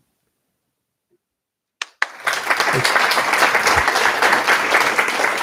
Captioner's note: applause